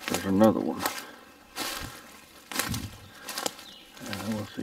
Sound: twigs crunching

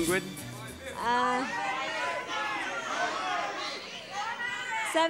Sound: audience shouting numbers

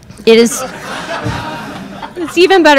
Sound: crowd laughing

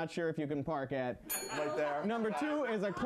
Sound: bell rings

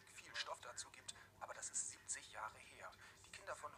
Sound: German

